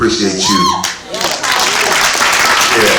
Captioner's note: applause